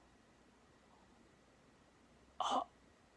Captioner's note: little gasp